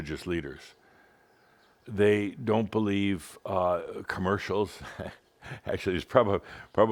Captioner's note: chuckles